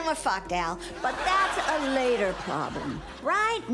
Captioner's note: studio audience laughs